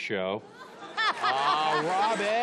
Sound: laughing

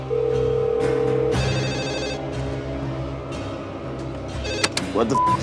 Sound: phone dialing; intense music; phone ringing

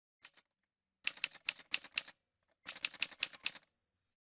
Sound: typewriter sounds

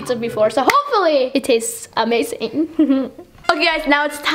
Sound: giggles

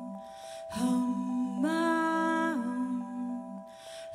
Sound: higher pitch

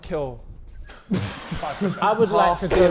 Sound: Sidemen laughing

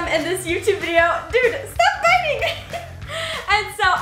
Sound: laughs

